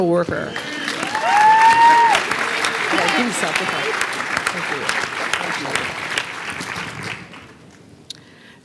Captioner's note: applause